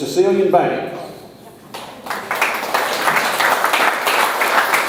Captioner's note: audience applauds